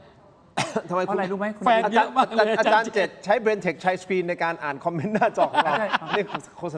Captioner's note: laughs